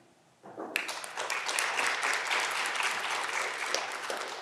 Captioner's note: audience clapping